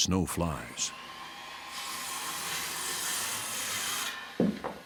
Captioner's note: saw whirring